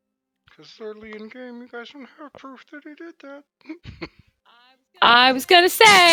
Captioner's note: quietly